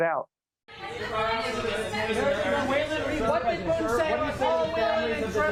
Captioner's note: reporters Talking